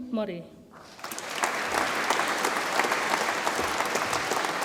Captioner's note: audience applauds